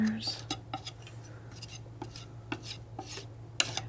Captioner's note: tapping